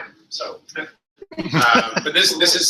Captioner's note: laughter